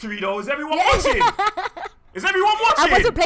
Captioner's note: laughs